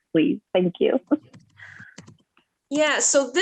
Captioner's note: chuckles